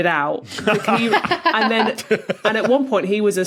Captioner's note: guessers laugh in turn